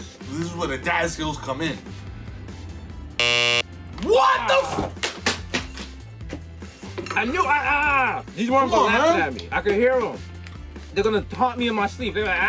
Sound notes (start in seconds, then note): 3.2 buzzer buzzes